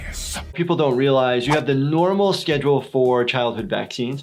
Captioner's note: none